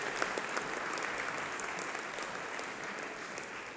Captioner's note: applause